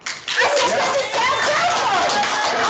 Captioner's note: clapping